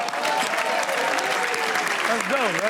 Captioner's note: audience applauds